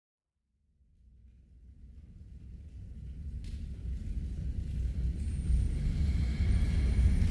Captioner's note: roaring fire sound